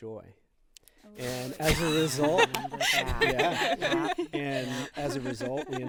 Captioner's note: group laughing